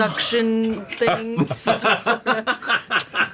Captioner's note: laugh